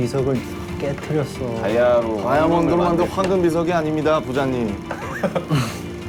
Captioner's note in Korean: 럼블링